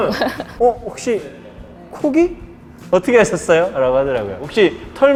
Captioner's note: laughing